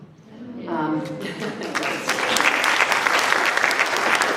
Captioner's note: applause